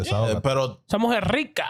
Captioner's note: speaking In Foreign Language